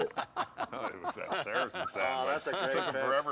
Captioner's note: laughter